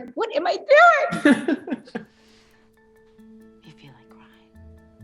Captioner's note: laughs